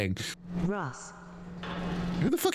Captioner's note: door opens